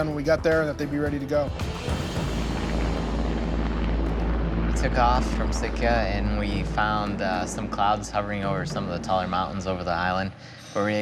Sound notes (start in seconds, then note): 3.2 helicopter whirring